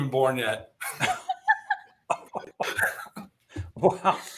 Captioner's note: laughter